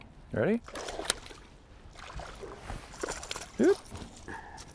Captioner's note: water splashing